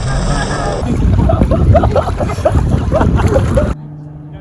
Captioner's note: laughter